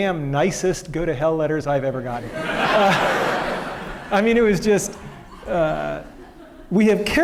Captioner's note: laughter